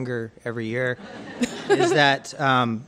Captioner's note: crowd laughs